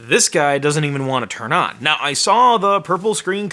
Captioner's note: none